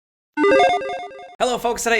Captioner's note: logo chiming